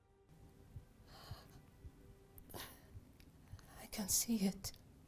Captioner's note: Asase sighs